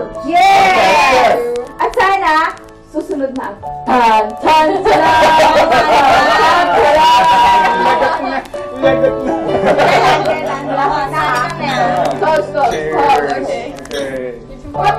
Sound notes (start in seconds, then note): 3.7 humming " "; 5.0 laughter; 8.8 laughter; 14.8 giggles